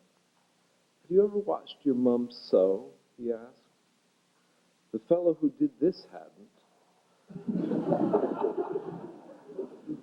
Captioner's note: laughter